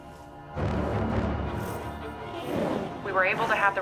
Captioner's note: robot speaking in foreign language